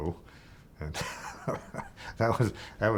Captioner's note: chuckling